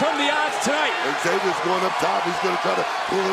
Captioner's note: crowd cheers